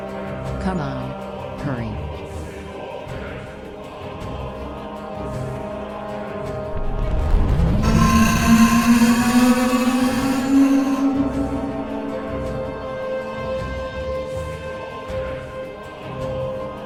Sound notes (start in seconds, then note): 7.7 scorpion beast shrieks; 7.8 tentacle beast blares